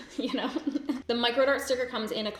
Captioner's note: laughs